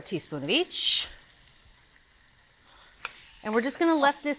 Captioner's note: pan sizzling